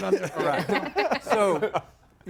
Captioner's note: group laughs